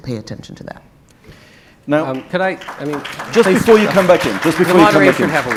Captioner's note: audience clapping